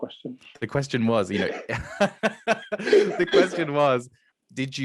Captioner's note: laughing